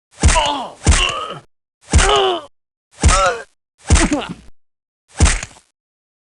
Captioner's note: bat bludgeons; inmate groaning; weapon bashing